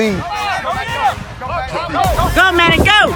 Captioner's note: people chatter